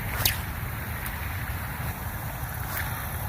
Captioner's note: sling whips; splash; sling whips